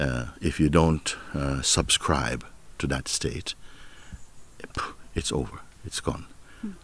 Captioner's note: atmet stark